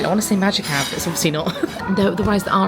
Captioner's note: chuckling